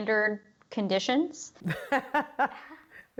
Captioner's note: laughter